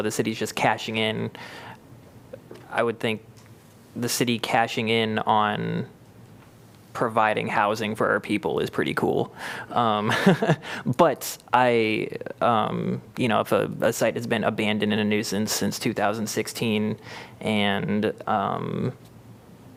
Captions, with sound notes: the city's just cashing in, I would think the city cashing in on providing housing for our people is pretty cool. [LAUGHTER] But I am, you know, if a site has been abandoned and a nuisance since 2016 and, um,